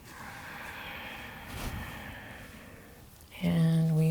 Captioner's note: breathes deeply